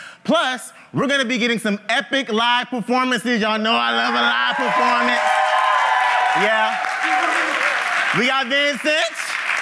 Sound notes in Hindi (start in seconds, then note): 4.7 ताली